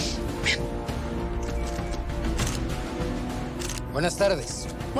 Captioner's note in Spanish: Clic de las cámaras